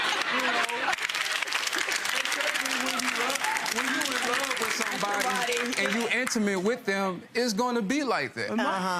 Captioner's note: audience applause